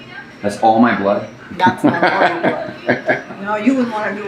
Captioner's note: laughs